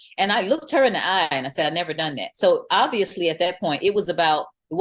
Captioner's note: none